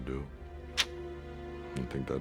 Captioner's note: sucks teeth